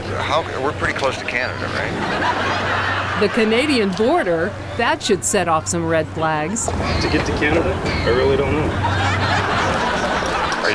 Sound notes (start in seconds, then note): 1.7 audience laughs raucously